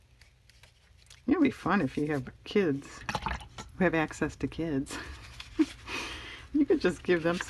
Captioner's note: laughs